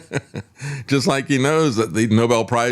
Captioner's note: laughs